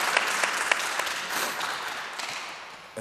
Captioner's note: audience clapping